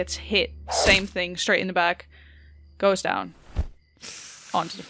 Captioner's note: body thumps on the floor